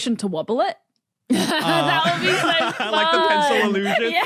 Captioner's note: laughs